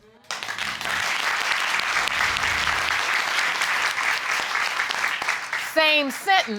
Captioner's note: audience clapping